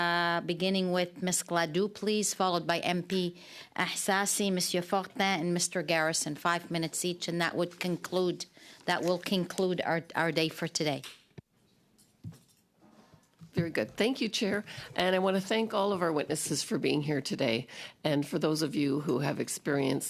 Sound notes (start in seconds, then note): 8.8 speaking French